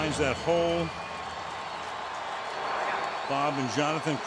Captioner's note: cheering